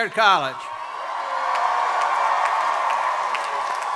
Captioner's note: crowd cheering